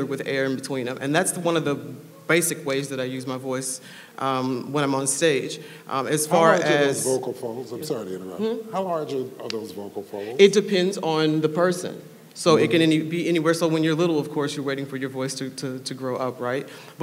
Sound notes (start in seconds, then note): none